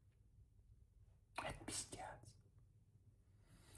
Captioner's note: whispering